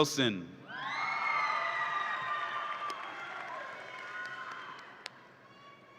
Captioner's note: audience applauds and cheers